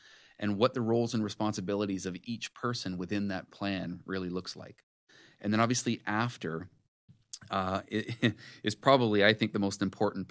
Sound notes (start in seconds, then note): 7.6 laughs